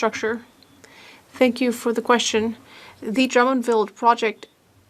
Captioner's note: speaking French